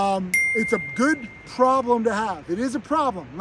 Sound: bell dings

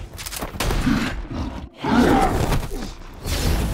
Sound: creature roaring

